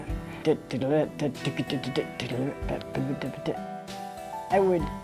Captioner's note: makes drumming noises